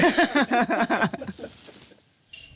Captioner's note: laughing